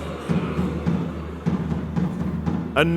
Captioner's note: audience grunts